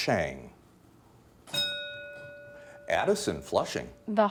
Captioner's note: bell dinging